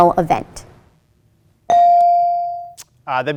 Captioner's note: ding chimes